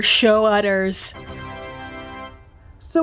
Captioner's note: tada sound